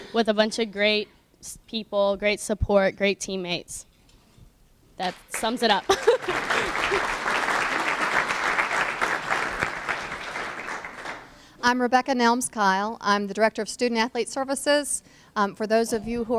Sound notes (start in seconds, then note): 5.0 applause; 5.8 laughs